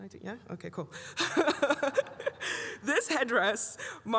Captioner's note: laughs